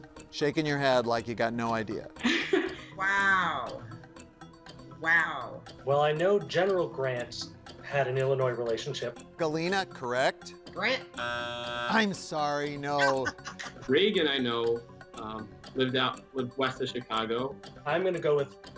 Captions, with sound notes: Shakin' your head like you got no idea. (laughing) - Wow. Wow. - Well I know General Grant had an Illinois relationship. - Galena, correct? - Grant? (buzzer buzzing) - I'm sorry, no. - Reagan, I know lived out, lived west of Chicago. - I'm gonna go with Nancy Reagan.